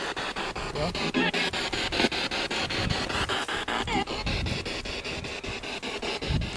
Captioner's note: radio noise from the spirit box